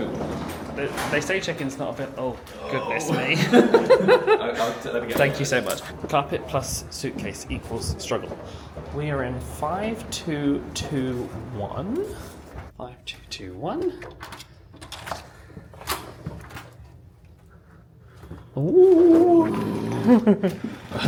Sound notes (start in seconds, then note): 2.6 laughs; 14.8 door opens